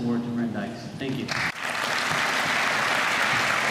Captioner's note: applause